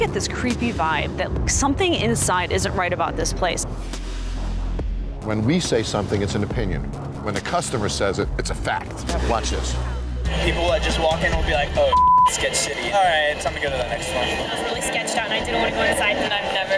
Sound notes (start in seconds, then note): 11.8 beep